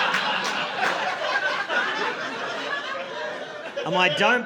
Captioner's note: audience laughing